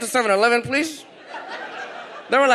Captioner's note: audience laughs